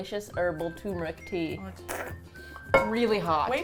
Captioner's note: slurp